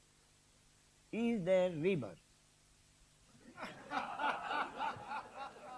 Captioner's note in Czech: smích